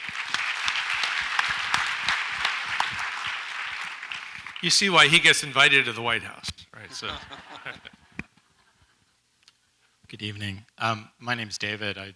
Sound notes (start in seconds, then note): 0.0 audience applauds; 6.8 laughs